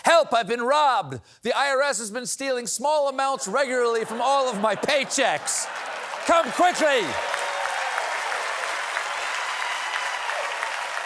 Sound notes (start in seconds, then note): 4.0 laughter; 4.8 applause